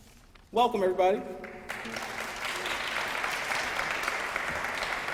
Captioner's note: applause